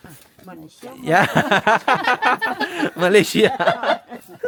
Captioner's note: speaking Nepali; laugh